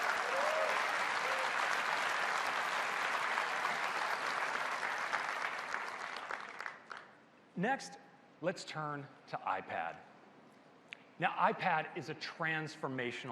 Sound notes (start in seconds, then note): 2.6 applause